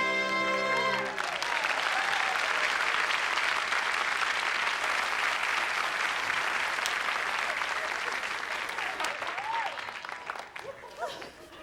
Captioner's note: applause